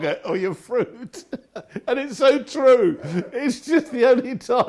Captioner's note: laughing